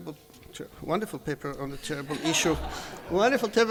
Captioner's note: laughter